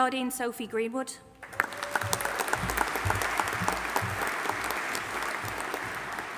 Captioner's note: audience applauding and cheering